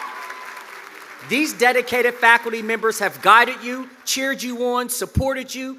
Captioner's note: cheers and applause